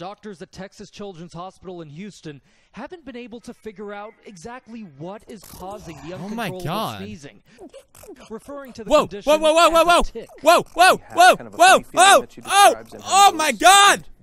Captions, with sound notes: ohh my god~ [Felix 'WOAH's' while the girl sneezes] OH MY GOD~!!